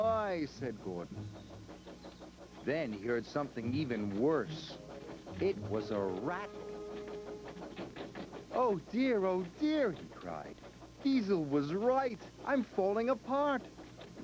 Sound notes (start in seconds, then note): 0.0 squeaking; 6.4 rattling